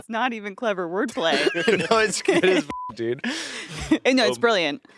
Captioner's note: beeping